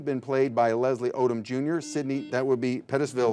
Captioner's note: buzzer buzzing